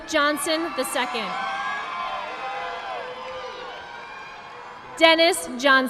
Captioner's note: audience applauding